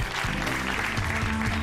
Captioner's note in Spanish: aplausos